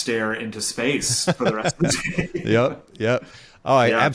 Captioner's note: laughing